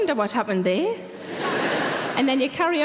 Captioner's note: audience laughing